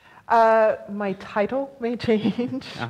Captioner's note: laughs